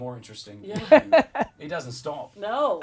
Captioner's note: laughing